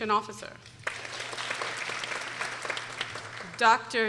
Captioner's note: people applauding